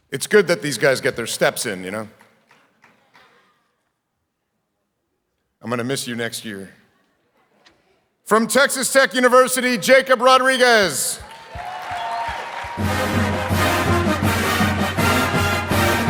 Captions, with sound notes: It's good that these guys get their steps in, you know? I'm gonna miss you next year. From Texas Tech University, Jacob Rodriguez. (audience applauding)